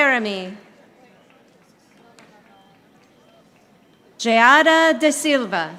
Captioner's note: audience applauding